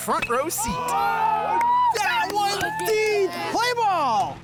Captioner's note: crew cheering